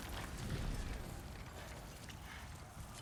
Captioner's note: none